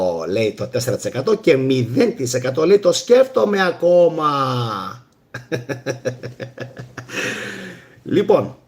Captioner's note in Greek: γέλια